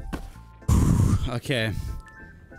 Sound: exhale

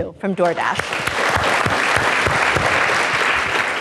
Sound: applause

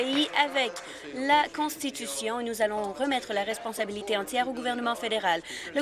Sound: some applause

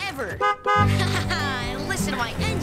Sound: honking

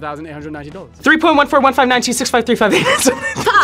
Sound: laughs

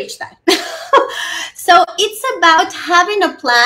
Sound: giggles

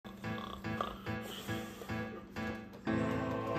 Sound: snoring

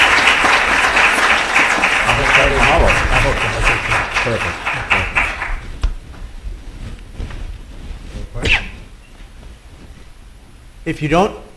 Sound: applause

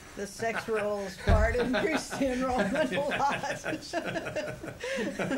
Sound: laughter

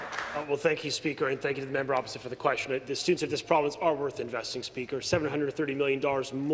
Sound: some applause

